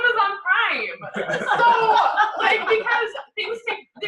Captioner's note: laughter